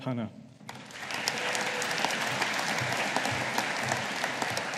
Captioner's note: audience applauding